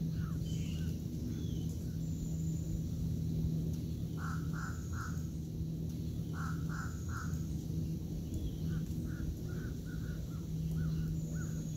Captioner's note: nature Sounds